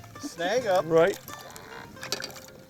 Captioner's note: voiceover